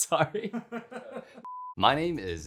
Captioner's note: laughing